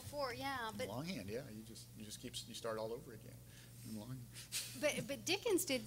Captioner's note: laughing